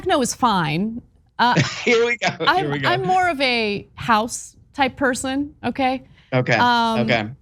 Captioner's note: laugh